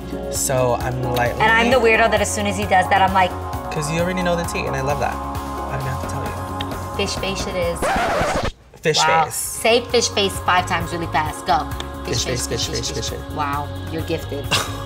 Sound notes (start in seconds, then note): 7.7 record scratching; 14.6 scoffs